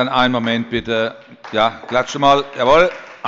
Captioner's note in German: Beifall bei der SPD